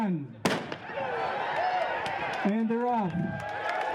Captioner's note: gun fires